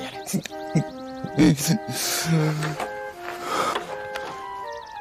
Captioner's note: cries